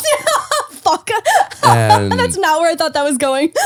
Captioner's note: laughing